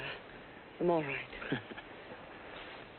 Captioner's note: he chuckles